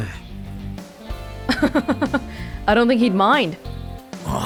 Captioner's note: chuckles